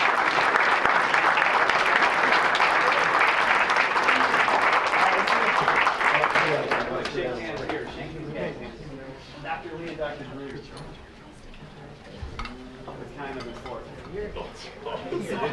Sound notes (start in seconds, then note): 0.0 applause; 6.5 group chattering; 12.4 group chattering